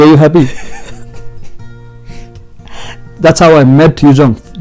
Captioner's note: giggle